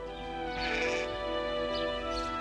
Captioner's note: bleating